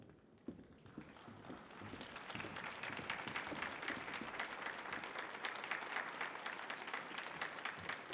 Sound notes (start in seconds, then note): 1.0 audience applauding